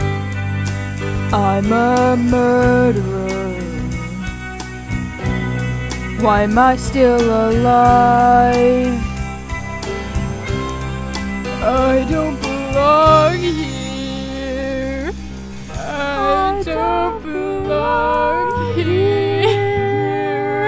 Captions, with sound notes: I'm a murderer why am I still alive? I don't belong here *postmortem weeping* Lady Macbeth and Macbeth, beyond the grave, sobbing: I don't belong here